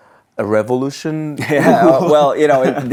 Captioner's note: both laughing